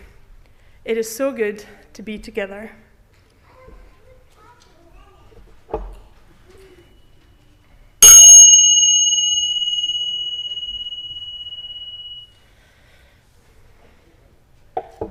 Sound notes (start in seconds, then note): 3.3 silence; 8.0 chime